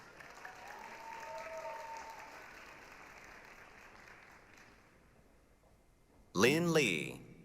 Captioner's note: applause, cheering